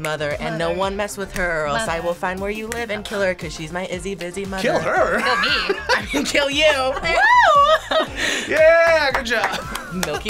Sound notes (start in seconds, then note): 4.6 laughs; 7.7 group laughs; 9.7 laughs